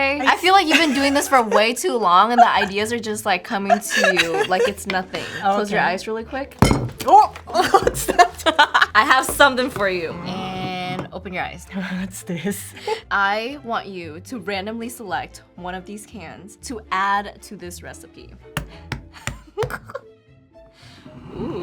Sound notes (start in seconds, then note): 6.6 can thuds; 8.0 laughs; 18.6 cans thudding